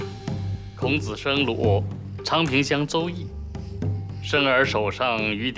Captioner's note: hablan un idioma extranjero